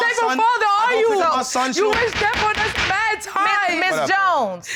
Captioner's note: gavel banging